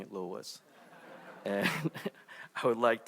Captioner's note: audience laughing